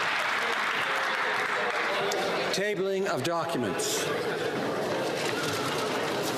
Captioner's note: some Applause